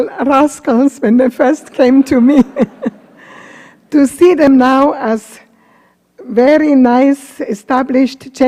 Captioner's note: laughs